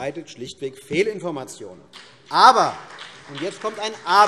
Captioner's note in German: Beifall CDU und BÜNDNIS 90/DIE GRÜNEN